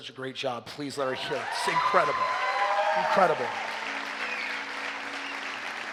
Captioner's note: audience Applauding